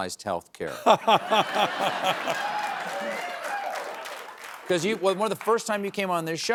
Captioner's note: laughs